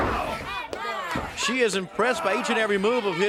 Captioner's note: crowd chatter